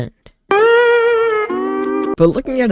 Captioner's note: Spongebob sad sound effect